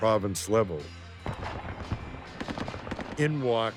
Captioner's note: guns firing